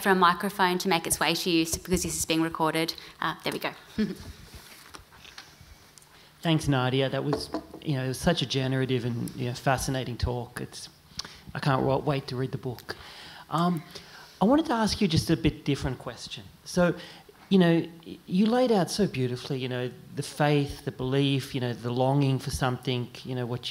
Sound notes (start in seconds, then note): 4.0 chuckle